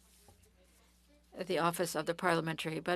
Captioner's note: speaking French